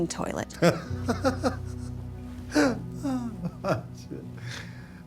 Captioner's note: laughs